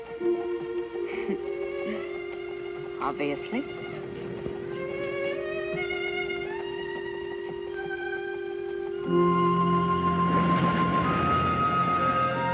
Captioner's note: chuckles